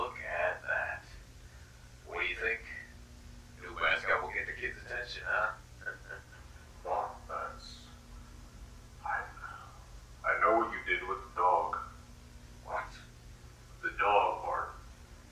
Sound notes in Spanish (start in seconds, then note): 5.8 risas